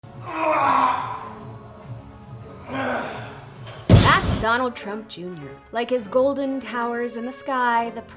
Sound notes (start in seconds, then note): 0.1 loud Grunting